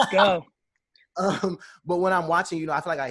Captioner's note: laughing